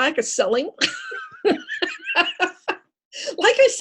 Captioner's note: laughter